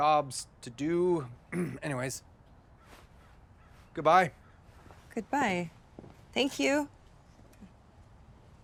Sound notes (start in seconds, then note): 1.5 clears throat